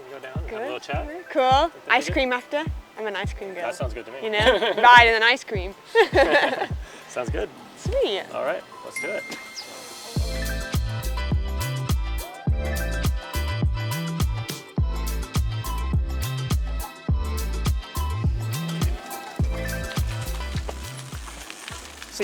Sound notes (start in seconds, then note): 5.8 laughs